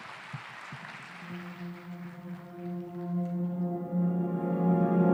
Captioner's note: cheering/Applause